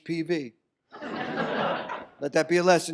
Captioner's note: audience laughs